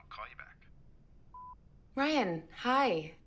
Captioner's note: phone beeping